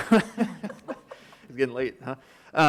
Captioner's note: everyone laughing